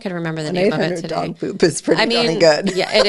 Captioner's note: laughs